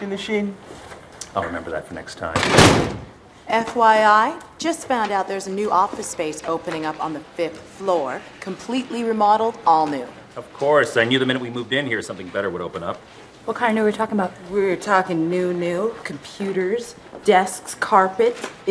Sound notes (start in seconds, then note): 2.3 slamming of drawer